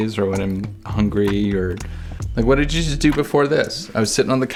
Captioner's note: none